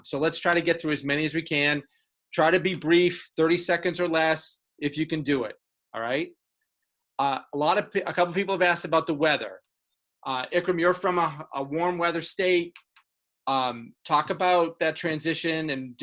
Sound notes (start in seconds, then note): none